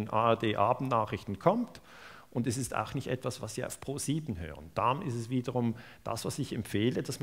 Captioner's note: German broadcast